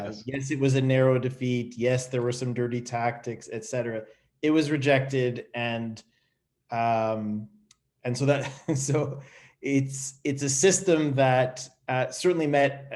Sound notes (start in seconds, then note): 8.4 chuckles